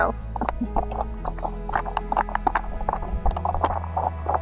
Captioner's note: sound of stirring food